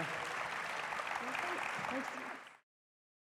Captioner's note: audience applauding